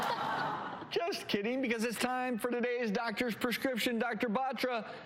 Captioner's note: laughter